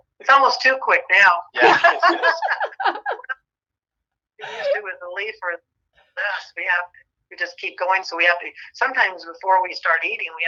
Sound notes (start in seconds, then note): 1.6 all laugh